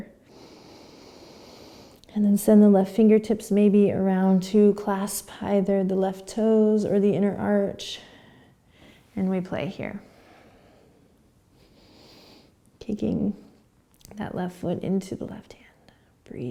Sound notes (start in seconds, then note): 0.2 inhaling; 10.0 breathing